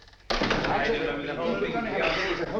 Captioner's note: clamoring continues